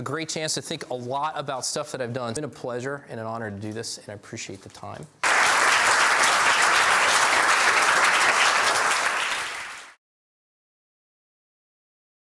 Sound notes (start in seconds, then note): 5.2 applause